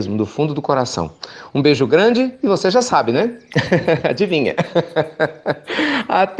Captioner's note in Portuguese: Risos